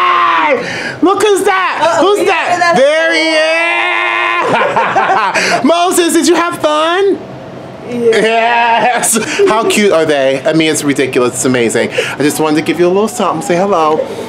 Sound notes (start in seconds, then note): 3.3 laughs